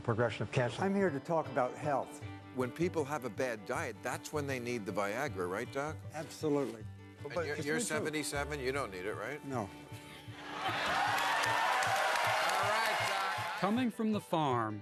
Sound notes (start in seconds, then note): 10.4 audience applauding